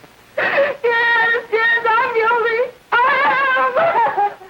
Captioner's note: crying